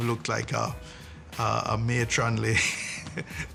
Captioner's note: chuckles